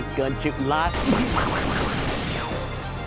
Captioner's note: gun firing